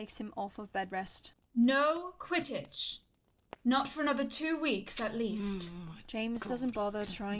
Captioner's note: James grumbles